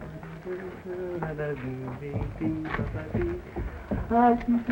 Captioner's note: L'Arby hums